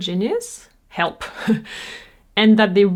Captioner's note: giggles